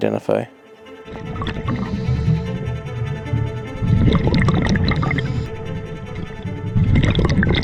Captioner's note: suspenseful music; water gurgling